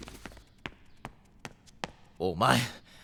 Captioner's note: footsteps